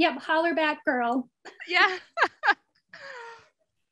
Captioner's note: laughing